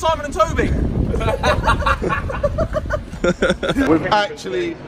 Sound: laughing

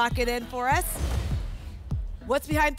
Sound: whoosh; thump

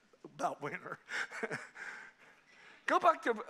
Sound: all laughing

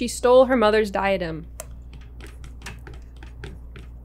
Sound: none

